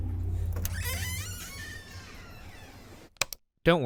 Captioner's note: door creaks